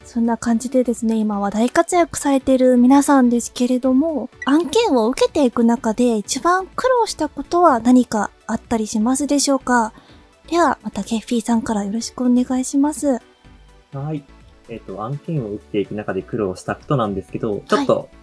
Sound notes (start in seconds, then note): none